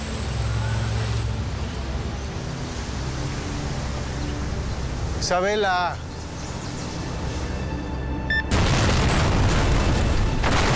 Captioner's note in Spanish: Explosión